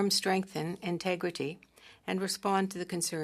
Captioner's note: speaking French